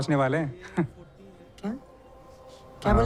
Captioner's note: Shopkeeper chuckles